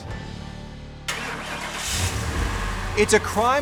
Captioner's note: car ignition starting